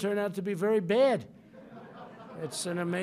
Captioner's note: laughter